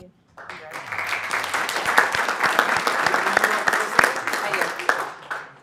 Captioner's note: applause